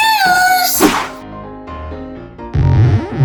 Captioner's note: quick swooshing; rubbery tugging